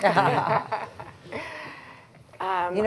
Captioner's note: laughter